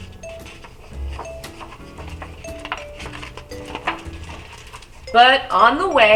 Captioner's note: page turning